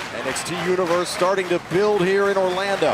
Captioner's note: crowd cheering